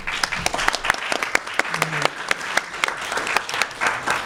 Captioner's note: applause